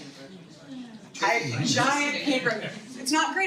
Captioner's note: audience murmuring in agreement